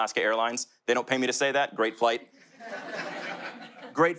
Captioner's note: audience laughter